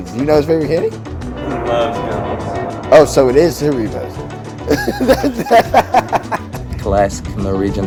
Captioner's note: laughs